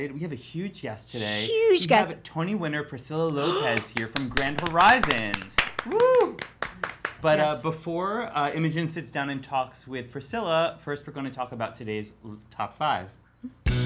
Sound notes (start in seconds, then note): 3.6 applause; 13.6 upbeat music